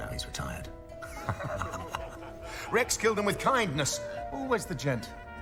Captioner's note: laughs